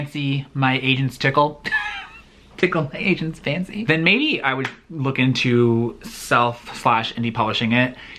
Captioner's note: laughs